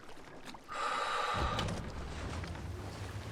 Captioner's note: exhales